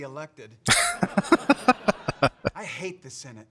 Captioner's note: laughing